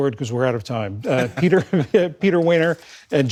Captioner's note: laughter